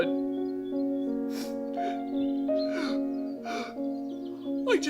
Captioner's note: sobbing